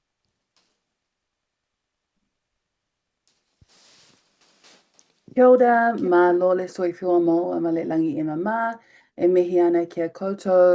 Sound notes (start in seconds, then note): 5.5 woman speaking in foreign language